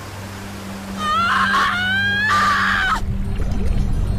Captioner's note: Janan screams